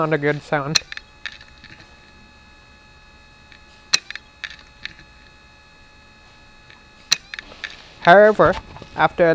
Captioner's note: un-Happy Hard Drive Noises